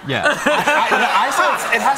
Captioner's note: laughter